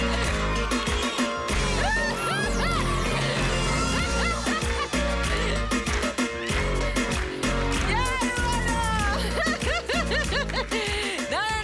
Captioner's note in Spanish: Risas